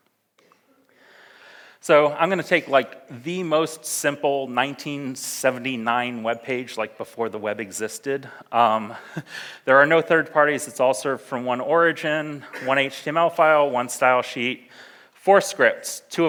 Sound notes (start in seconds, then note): 9.1 laughs